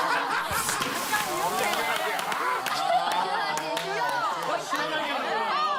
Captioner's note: loud sneeze that can beat the heat wave